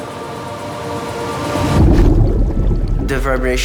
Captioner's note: burbling